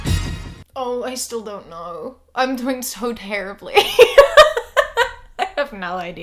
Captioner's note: laughs